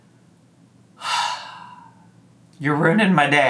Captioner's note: sighs